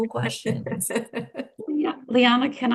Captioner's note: chuckling